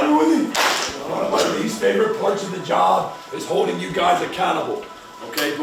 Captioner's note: clap